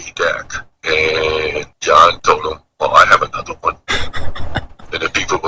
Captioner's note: laughs